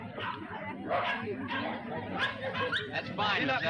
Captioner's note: dogs barking